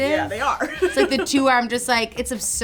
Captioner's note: laughs